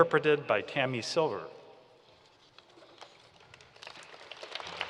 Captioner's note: applause